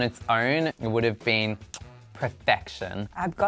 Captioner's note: smacks lips